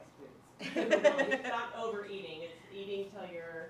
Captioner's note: laughter